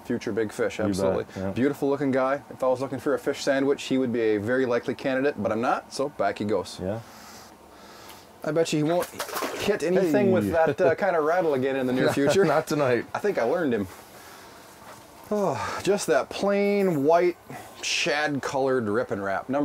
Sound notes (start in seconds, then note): 0.3 voiceover; 8.9 splashing; 11.8 laughing; 12.6 voiceover